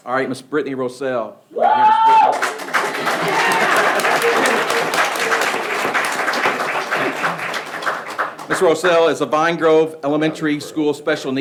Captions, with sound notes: All right, Ms. Brittany Rossell. (people clapping) (person cheering) - Yeah. (people clapping) - Ms. Rossell is a Vine Grove Elementary School